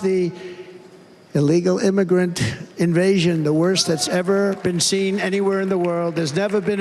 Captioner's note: cheers and applause